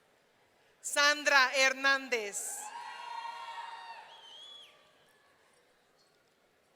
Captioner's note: audience cheering